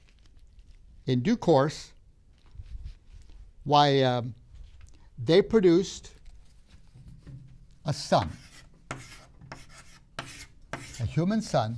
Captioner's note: marker clunks on the board